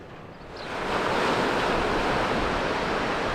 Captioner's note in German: Vogelgezwitscher & Wellenrauschen